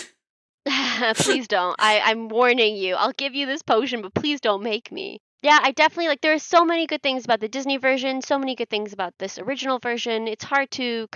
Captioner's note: imitating sea witch